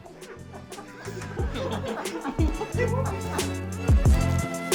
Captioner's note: laughing